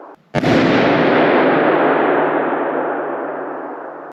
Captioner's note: balloon banging